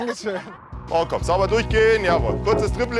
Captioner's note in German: Leise Anweisungen